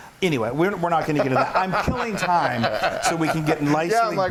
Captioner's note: laugh